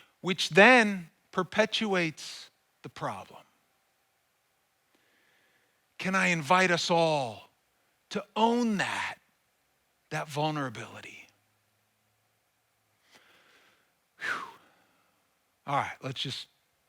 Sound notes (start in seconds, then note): 14.2 sighs